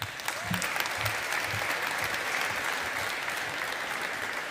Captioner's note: audience applauding